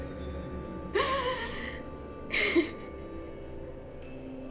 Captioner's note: Rose whimpering